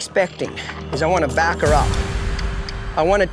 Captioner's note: tongue clicks